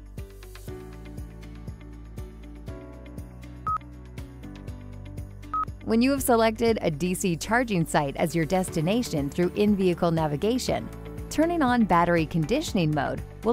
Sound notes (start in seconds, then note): 0.2 bright music continues; 3.6 electronic beeping; 3.6 bright music continues